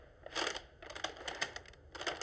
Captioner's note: none